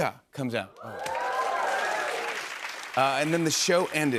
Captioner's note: cheers and applause